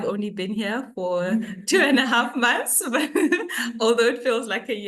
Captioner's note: laughs